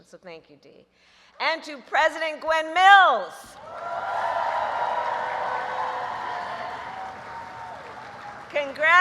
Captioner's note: applause